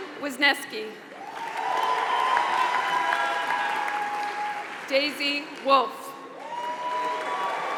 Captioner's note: applause